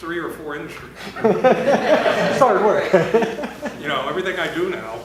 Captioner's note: laughter